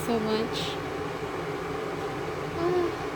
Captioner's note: whirring bathroom fan sounds